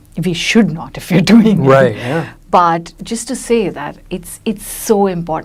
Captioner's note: laughs